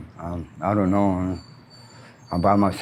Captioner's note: brakes squeal